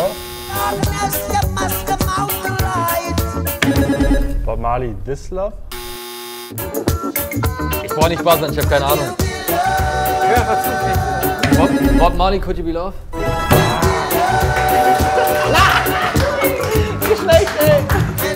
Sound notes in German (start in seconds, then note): 13.6 Schrei